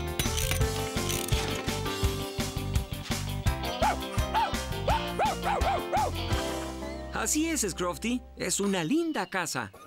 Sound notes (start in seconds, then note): 4.8 excited Barking